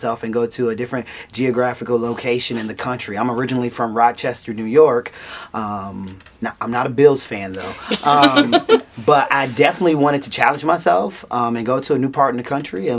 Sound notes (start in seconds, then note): 7.6 laughs